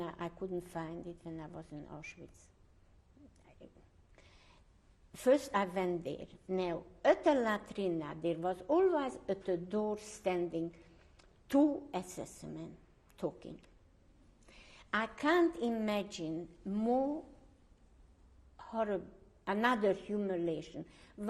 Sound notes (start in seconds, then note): 2.2 pauses for 3 seconds